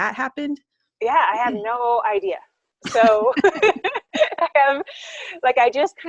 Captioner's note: laughing